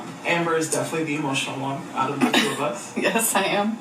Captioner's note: chuckles